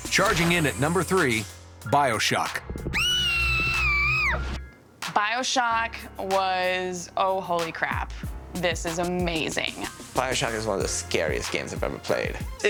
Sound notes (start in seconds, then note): 2.8 shrieking